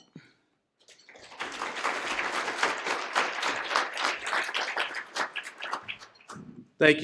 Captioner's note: applause